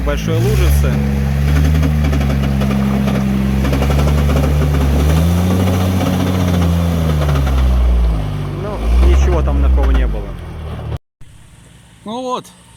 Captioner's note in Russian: Звук рёва мотора